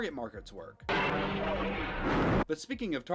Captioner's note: explosion